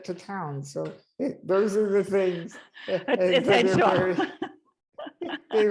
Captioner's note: both are laughing